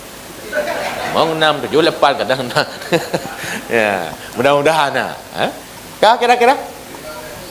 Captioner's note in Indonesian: tertawa